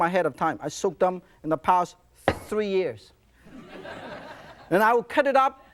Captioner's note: audience laughs